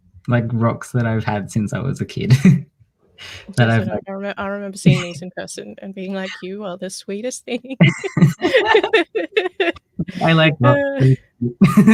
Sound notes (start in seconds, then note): 7.6 laughs